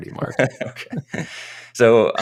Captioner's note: chuckling